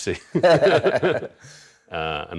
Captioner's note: both laughs